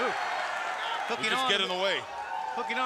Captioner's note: crowd cheering